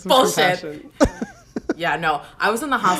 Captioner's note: laughs